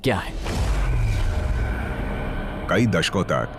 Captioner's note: explosion blasts